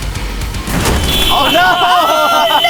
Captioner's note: upbeat heavy metal music; car horn beeping